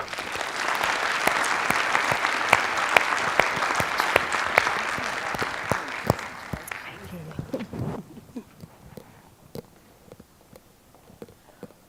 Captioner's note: applause